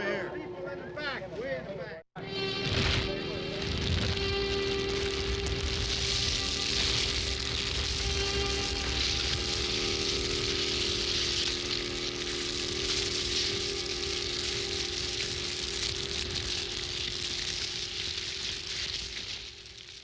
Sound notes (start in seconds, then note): 0.0 murmuring; 2.4 fire crackling